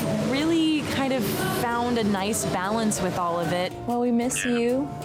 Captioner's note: husband speaking through phone